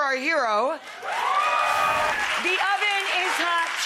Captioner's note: cheering